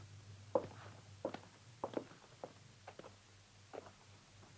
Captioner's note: heels clacking